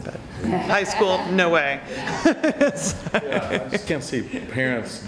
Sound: laughs

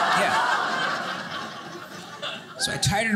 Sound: audience laughing

